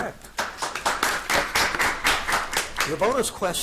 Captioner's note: audience applauding